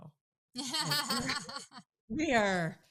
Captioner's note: laughing